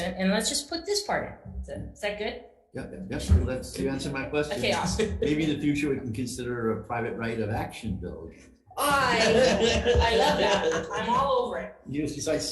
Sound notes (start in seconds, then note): 8.8 laughs